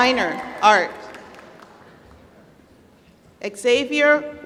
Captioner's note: applause